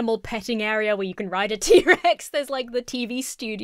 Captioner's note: laughs